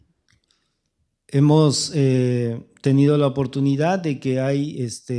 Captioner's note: speaking spanish